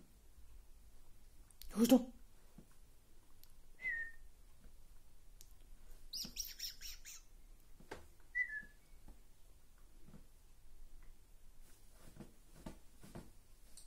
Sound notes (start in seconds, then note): 3.8 whistling; 6.1 making squeeky, mouse-like sound but Fido does not care, lol; 8.3 whistling